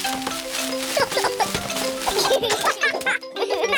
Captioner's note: peppa and george giggle